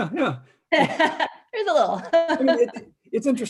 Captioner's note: chuckles